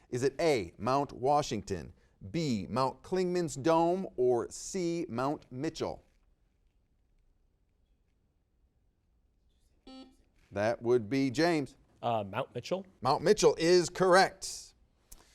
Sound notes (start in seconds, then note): 9.9 buzzer beeps